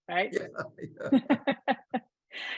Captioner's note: laughing